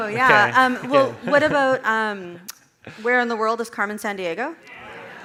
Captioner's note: audience chattering